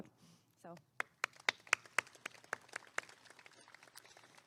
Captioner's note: applause